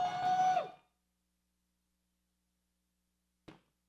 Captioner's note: man whoops